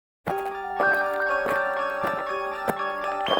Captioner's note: footsteps